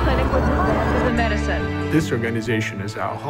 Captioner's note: ambient sound of news anchors